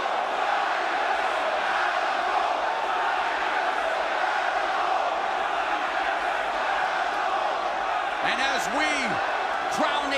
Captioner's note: crowd cheering